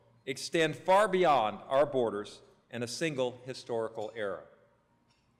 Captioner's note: none